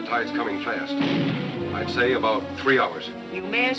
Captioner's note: cannon firing